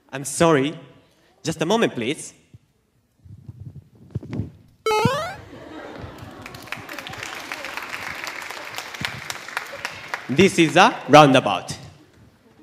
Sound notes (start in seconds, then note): 4.8 laugh; 6.1 applause